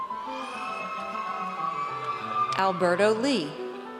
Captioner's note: audience cheers